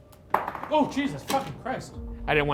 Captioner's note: ball thuds